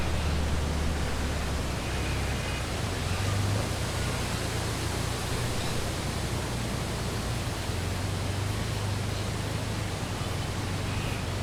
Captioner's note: traffic wind various birds calling